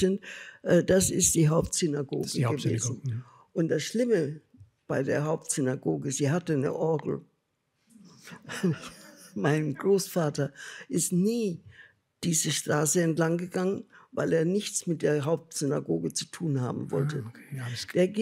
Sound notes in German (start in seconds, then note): 8.3 Lachen